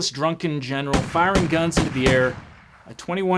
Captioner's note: gunshots bang